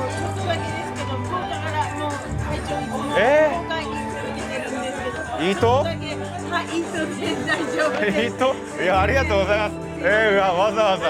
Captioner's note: in Hakata dialect